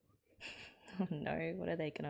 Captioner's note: chuckles